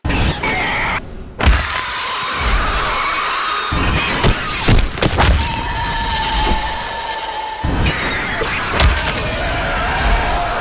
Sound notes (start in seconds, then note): 0.9 thuds; 1.4 demons screeching